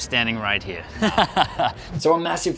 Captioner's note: laughing